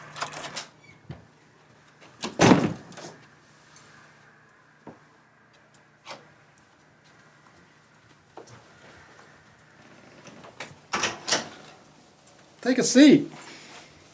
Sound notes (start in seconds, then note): 2.4 thud